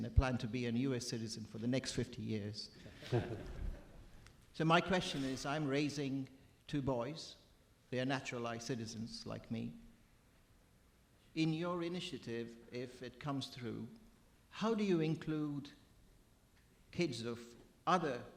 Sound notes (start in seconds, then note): 3.0 audience laughing